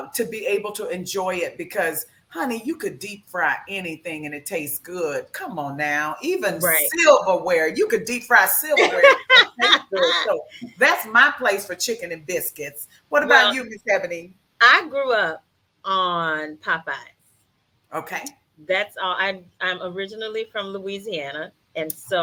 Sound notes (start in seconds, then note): 8.6 laughs